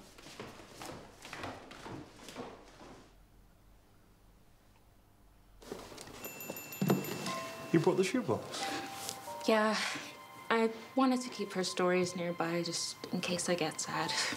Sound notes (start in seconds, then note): 0.0 footsteps plodding; 6.2 text chiming; 6.8 box thudding